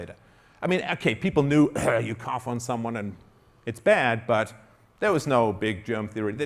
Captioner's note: coughing